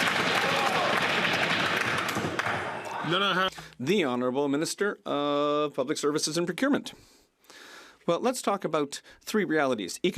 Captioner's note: some Applause